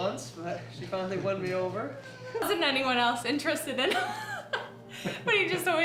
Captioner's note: laughs